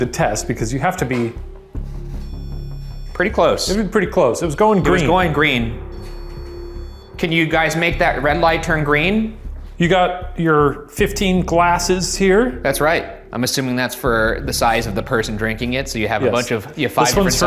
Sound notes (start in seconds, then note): 2.0 REM-Pod beeping